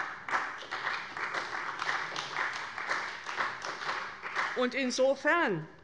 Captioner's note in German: Beifall bei der CDU und dem BÜNDNIS 90/DIE GRÜNEN